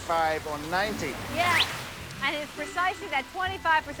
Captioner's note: daniel whistles